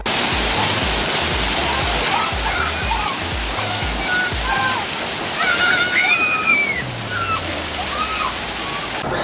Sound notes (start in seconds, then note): 0.2 waterfall hitting the rocks; 3.1 yelling